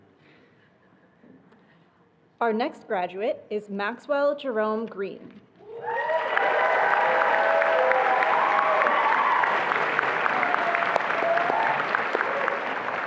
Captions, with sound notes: Our next graduate is Maxwell Jerome Green. (attendees applauding and cheering)